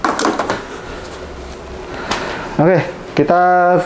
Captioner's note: inhale